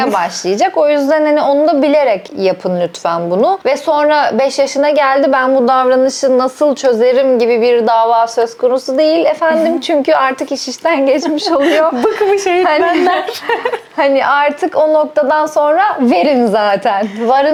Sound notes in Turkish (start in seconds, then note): 11.2 kahkaha